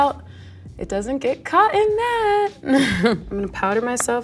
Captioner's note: laughs